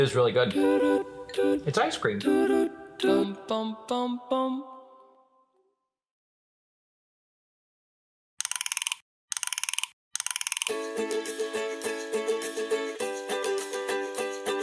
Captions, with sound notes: It is really good. It's ice cream. (gears turning) (bouncy music)